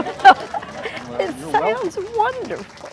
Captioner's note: clapping & cheering